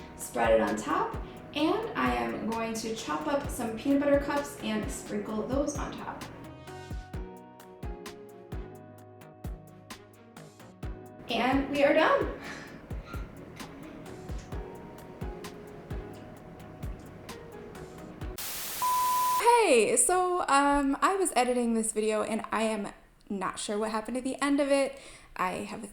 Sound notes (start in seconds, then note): 18.4 beep